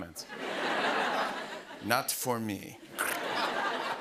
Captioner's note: laughter